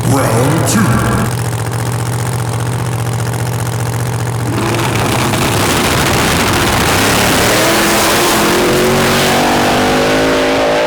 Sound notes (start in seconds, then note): 0.1 engines fluttering; 5.1 throttles revving; 7.6 engines tearing